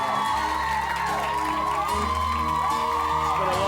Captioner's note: audience applauds; soft beat music